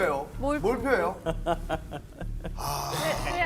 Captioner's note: hahaha